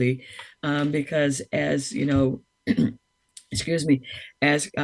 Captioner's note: clears throat